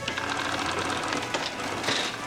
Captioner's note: register cranking